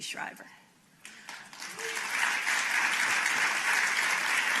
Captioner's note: applause